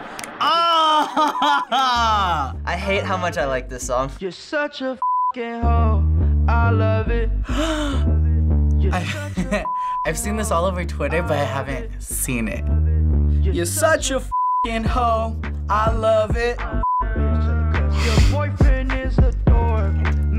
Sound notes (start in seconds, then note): 0.8 laughs; 7.4 gasps; 9.0 chuckles; 13.3 sings along; 17.2 chuckles